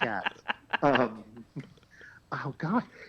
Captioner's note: laughs